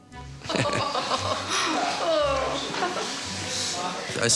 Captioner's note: laughing